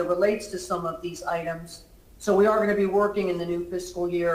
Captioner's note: ~distortion~